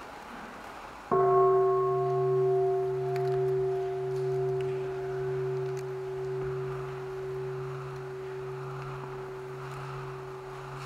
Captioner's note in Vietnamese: chuông